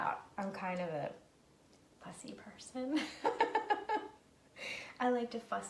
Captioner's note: laughing